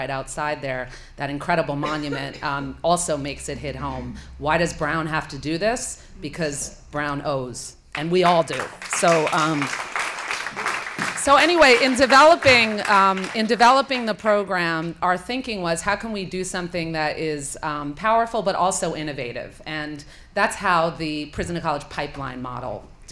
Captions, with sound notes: outside there, that incredible monument also makes it hit home. Why does Brown have to do this? Because Brown owes, and we all do. [APPLAUSE] So anyway, in developing the program, our thinking was how can we do something that is powerful, but also innovative? And that's how the prison to college pipeline model